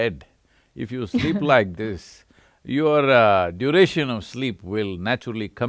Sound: laughs

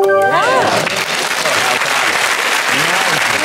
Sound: applause

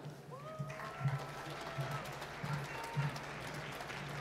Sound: applause

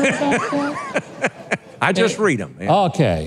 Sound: laughs

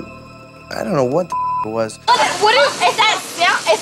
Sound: beep

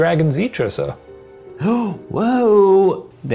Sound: gasps

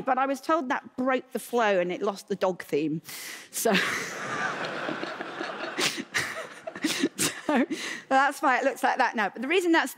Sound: laughter

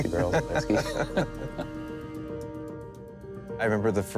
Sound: both laughing

